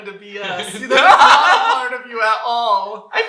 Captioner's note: laughter